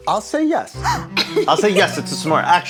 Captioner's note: gasps